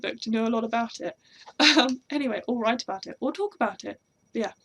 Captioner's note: laugh